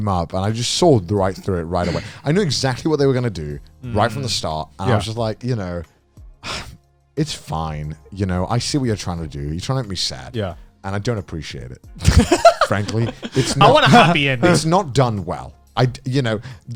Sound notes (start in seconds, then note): 12.0 laughing